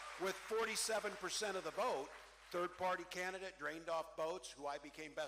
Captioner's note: cheering